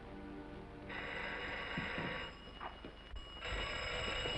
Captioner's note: phone ringing